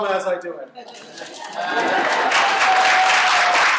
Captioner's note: applause